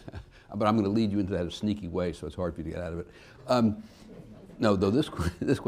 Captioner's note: laughs; laughter